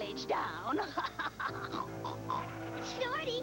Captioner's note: snorts